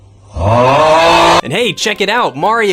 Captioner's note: loud Snoring Noise